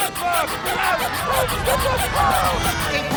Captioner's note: squeaking; screaming